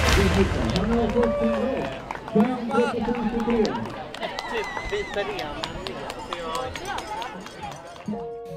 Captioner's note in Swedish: Applåder